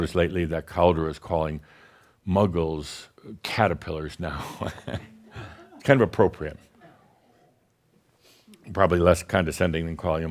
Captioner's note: chuckles